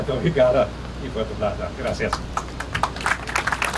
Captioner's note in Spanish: Aplauso